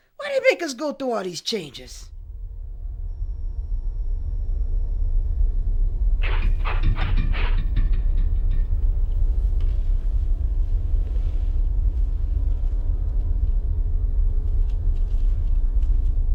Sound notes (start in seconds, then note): 3.2 ominous tones; 6.2 eerie scraping